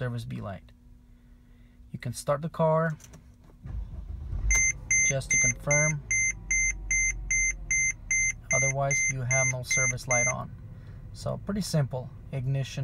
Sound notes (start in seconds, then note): 4.4 beeping